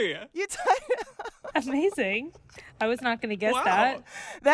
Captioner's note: laughter